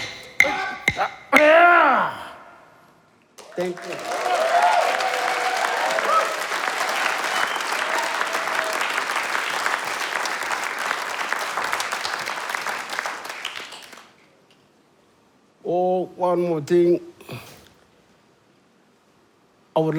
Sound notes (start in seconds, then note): 3.3 applause and Cheers